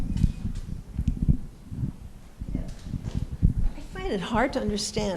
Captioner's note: sound of mic moving